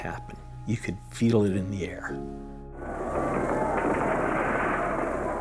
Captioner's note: sounds of explosions